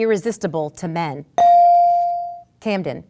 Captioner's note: ding